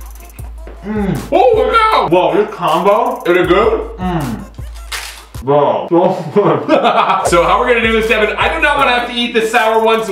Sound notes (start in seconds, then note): 6.4 laughs